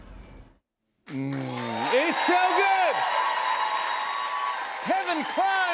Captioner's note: cheers and applause